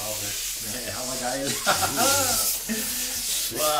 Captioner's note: laughter